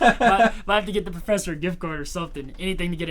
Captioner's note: Thomas laughing